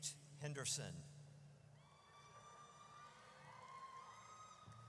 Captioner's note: audience cheers